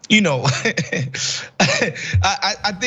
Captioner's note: laugh